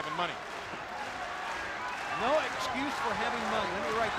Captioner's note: crowd chatter